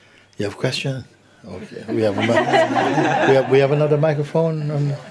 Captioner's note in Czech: smích